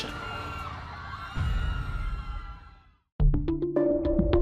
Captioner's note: fans cheering